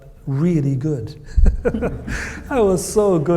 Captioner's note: both laugh